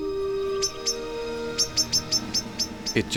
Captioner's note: loud chirping